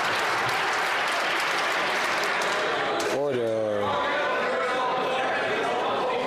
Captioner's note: some Applause